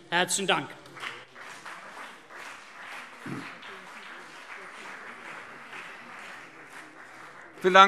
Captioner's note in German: Beifall CDU und BÜNDNIS 90/DIE GRÜNEN